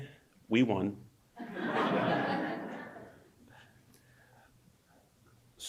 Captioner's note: audience laughs